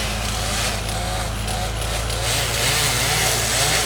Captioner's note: chainsaw humming